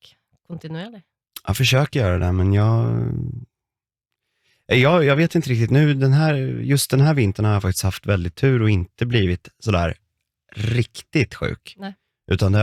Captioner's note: snort